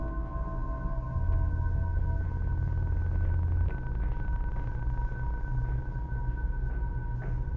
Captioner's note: ominous music continuing; footsteps